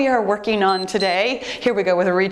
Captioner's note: timer beeps